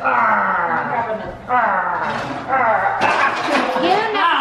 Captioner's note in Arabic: أطفال يلعبون